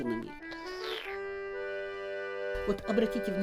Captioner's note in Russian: прихлебывает чай